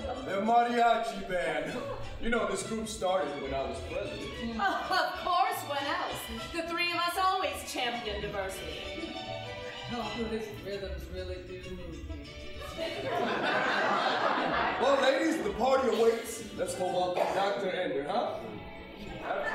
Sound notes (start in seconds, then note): 9.9 flatly; 12.6 audience laughing